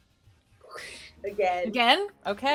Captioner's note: imitates swoosh sound